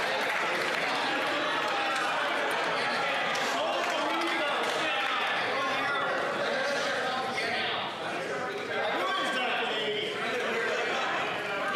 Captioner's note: yelling